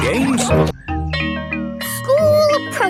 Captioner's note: school bell rings